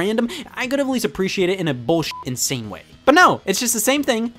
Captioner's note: beeps